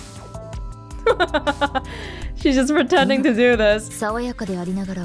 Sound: chuckles

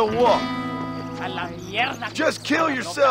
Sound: speaking Spanish

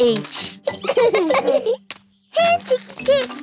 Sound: laughing

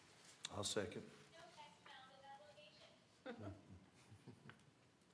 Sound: laughter

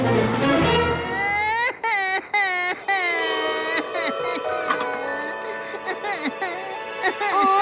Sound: crying

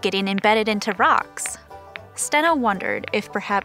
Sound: rocks clack against each other

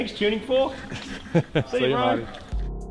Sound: chuckles

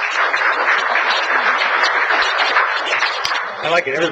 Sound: applause

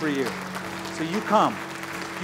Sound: applause

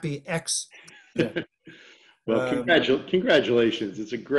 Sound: laughter

